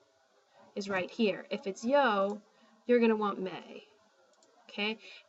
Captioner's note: spanish